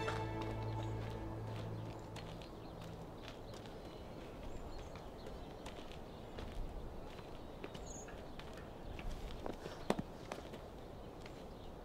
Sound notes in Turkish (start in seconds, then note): 2.0 Ayak sesi